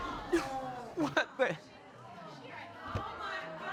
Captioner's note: audience exclaims; sobbing